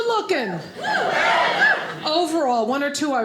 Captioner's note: audience cheers